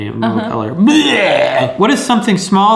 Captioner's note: imitating vomiting